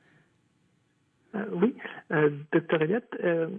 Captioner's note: speaking French